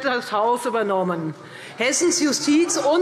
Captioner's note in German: Lachen BÜNDNIS 90/DIE GRÜNEN